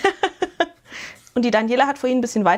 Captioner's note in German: gelächter